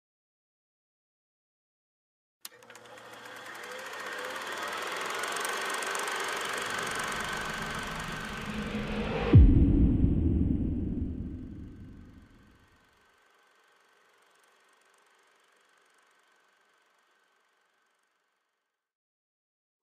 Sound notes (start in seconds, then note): 2.4 film projector sound